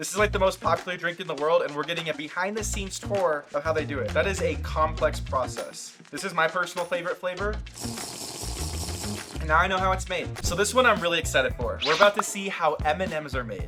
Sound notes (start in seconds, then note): 7.7 comical slurping; 8.4 upbeat music